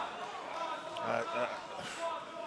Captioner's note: crowd chatter